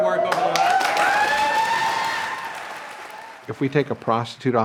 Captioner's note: cheering and applauding